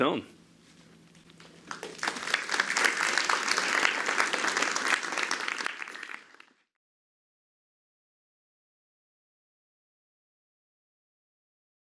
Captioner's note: applause